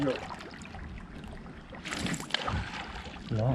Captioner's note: fish splashing